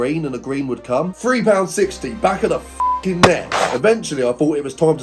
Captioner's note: beep